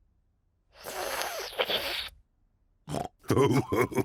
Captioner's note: slurps; oinks and laughs